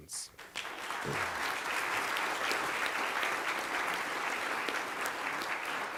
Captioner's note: applause